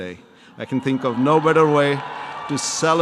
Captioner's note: audience applause